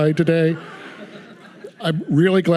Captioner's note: audience laughing